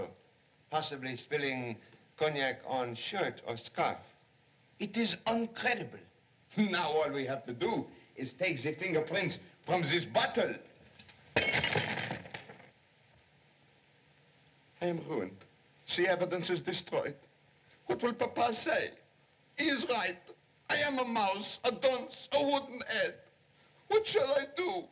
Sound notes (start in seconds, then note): 11.3 bottle Shatters